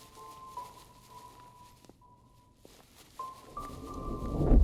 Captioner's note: soft music; footsteps; suspense music